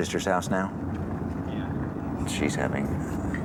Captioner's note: on phone